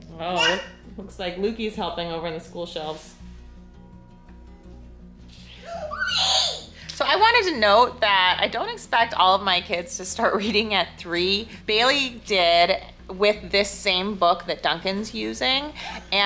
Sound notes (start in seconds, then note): 5.4 screeching